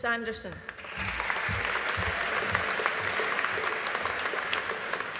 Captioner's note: audience applauding